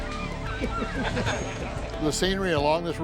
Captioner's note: crowd laughs